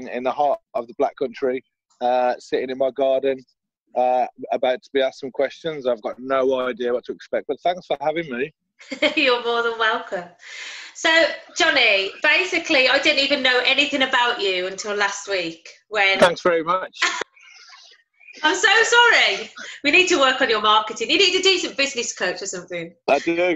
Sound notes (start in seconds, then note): 8.8 laughter; 17.0 laughter